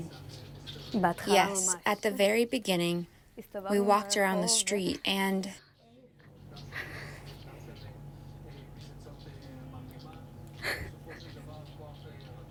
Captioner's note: through translator